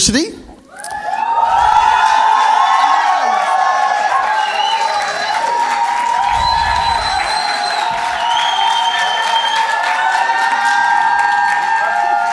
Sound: cheers and Applause

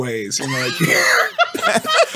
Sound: laughing

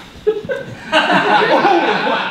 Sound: audience laughing

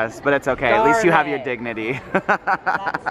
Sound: laughing

